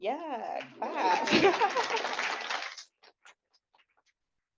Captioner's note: applause